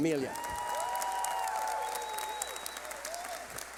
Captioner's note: cheering